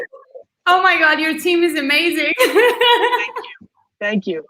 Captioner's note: laughing